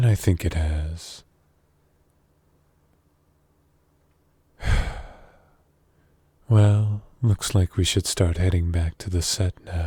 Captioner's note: sigh